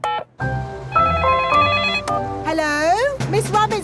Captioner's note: beeping; phone ringing